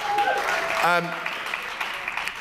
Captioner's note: applause